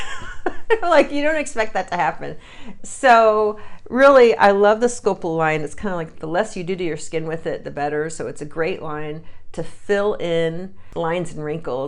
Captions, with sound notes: and her wonderful wrinkles came back (laugh). You don't expect that to happen. So really I love the Sculplla line and it's kinda like the less you do to your skin with it the better.